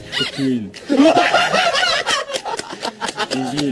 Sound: dying of laughter

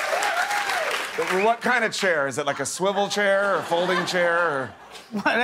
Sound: cheers and applause

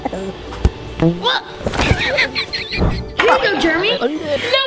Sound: chuckles; crashes

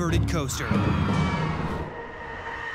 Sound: crowd screaming

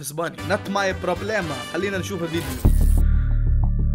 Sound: in Spanish

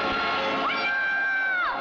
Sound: screams

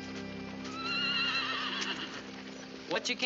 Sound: horse whinnying

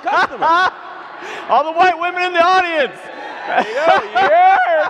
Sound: laughs

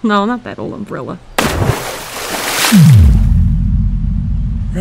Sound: heavy splash, swallowing plunge

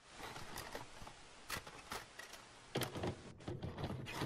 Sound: film rolling

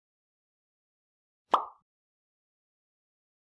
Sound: pop sound effect

